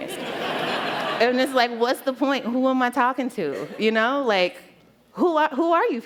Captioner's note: laughter